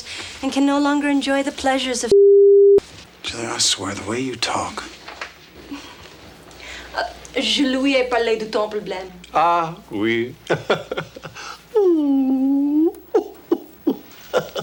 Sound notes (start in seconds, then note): 7.3 Jilly speaks French; 10.4 John chuckles; 11.5 John feigns sobbing